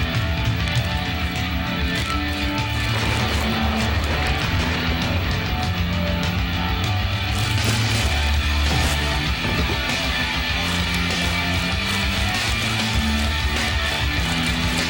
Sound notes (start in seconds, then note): 2.7 booming; 7.9 exciting rock music